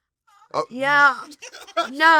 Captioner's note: laugh